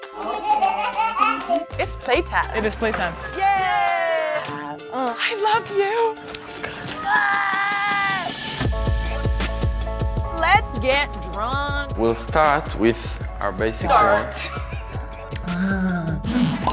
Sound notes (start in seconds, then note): 0.2 child laughing; 14.0 laughing